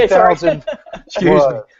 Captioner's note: laughs